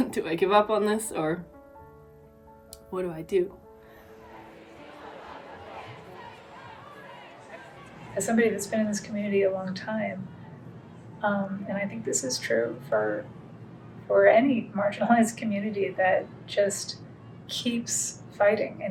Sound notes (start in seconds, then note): 3.8 crowds chanting, protesting